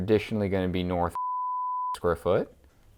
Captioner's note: beep